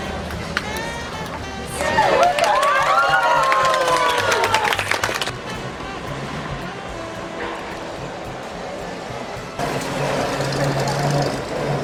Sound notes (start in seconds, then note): 1.7 cheering; 1.8 clapping